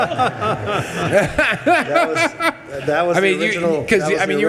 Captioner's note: attendees laughing